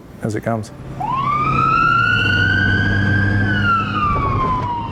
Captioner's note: sirens wail